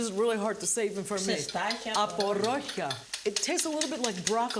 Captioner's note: speaking in greek